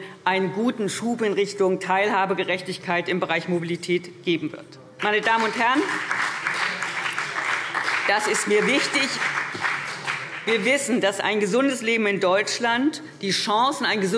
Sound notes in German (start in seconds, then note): 5.0 Beifall BÜNDNIS 90/DIE GRÜNEN und vereinzelt CDU